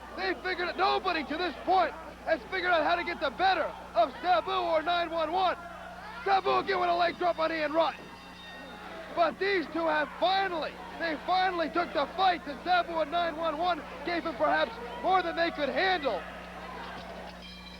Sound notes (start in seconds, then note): 8.2 bell ringing